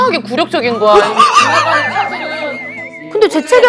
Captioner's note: crying from the funny yet sad story